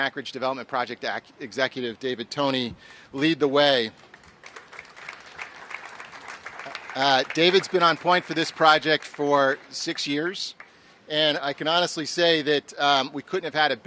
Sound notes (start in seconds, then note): 3.9 applause